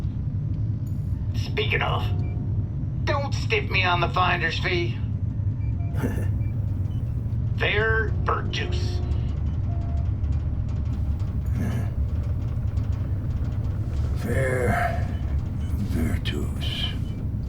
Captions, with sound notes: Speaking of, don't stiff me on the finder's fee. (Thiago scoffs) Ferr-Virtus. (Thiago chuckles) - Ferr-Virtus.